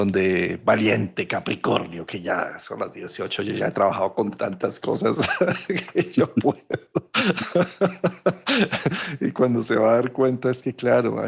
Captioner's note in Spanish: risas